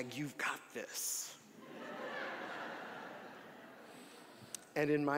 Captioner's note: audience laughing